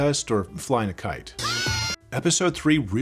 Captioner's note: yells briefly